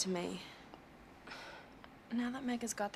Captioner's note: Salene sighs